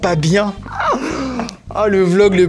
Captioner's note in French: rires